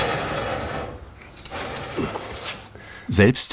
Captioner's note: metal scratching, groaning